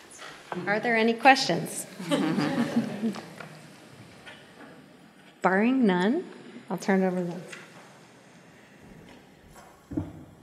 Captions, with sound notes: Are there any questions? [laughter] Barring none, I'll turn it over to-